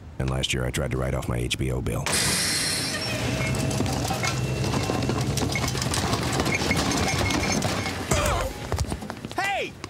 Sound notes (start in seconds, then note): 2.1 whirring and clattering; 7.5 groaning